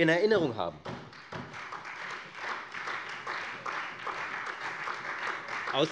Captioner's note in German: Beifall Freie Demokraten und vereinzelt SPD